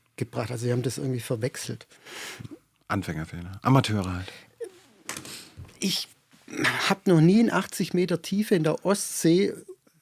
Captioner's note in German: schnauben